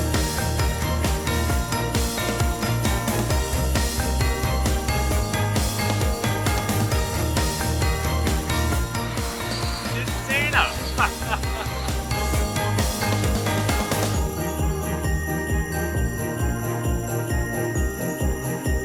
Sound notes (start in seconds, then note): 9.8 ha ha ha ha